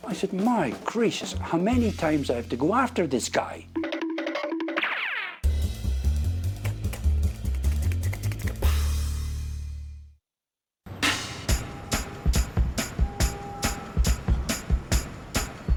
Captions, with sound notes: - I said, "My gracious! How many times do I have to go after this guy?" (cartoonish zooming) (cool jazz music) (upbeat music)